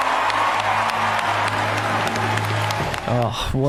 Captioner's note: cheering and applauding